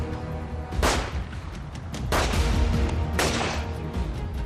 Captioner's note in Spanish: Disparos